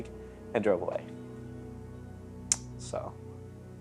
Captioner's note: clicking tongue